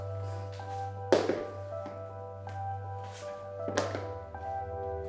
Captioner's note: shoes clatter